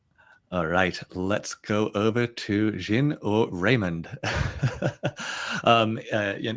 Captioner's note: chuckles